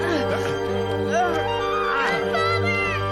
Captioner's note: Peter grunts